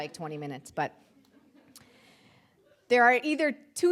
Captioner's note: audience chuckling